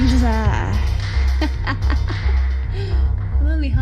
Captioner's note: laugh